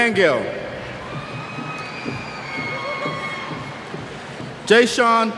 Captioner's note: cheers